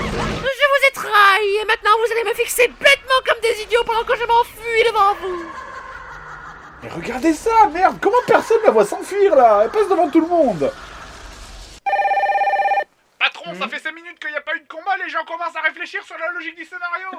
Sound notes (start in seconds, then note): 4.8 evil laugh again